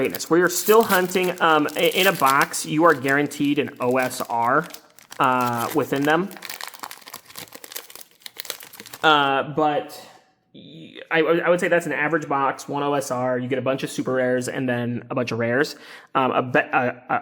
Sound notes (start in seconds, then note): 7.1 paper crinkling